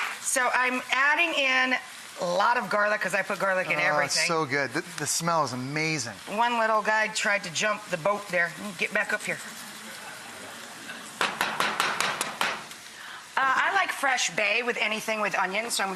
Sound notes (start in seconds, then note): 9.8 audience laughing; 11.2 metallic banging